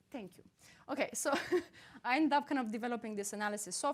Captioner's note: chuckles